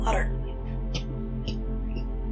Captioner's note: coughing